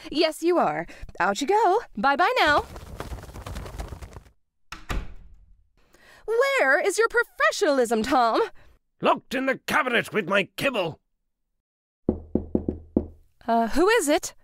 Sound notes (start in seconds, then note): 2.4 wings flapping; 4.7 door shuts; 12.0 knock on door